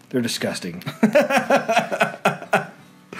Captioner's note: laughter